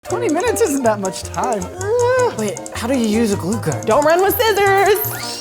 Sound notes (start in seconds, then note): 1.8 exclaiming